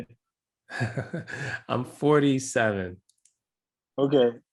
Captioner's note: laugh